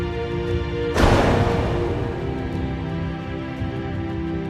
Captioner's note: door shutting